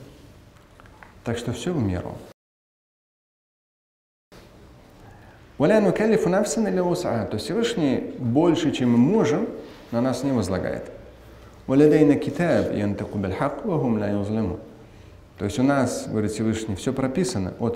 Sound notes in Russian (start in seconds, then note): 4.7 Говорит на арабском; 11.4 Говорит на арабском